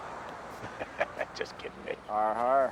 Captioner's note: laughs